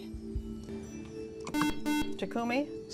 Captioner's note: buzzer